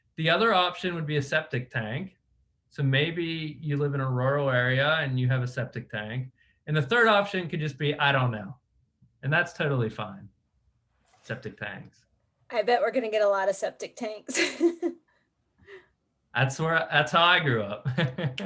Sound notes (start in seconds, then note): 14.3 chuckles